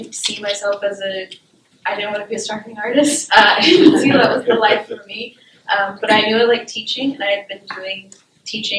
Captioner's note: laughter